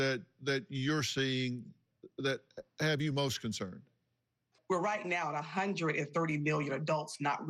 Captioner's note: none